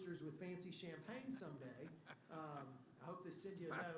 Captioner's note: laughter